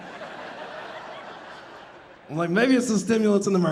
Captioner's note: audience laughing